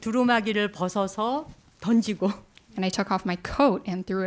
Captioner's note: speaking in Korean